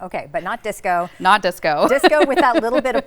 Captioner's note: laughs